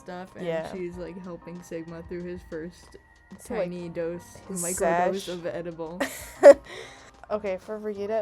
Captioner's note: wheeze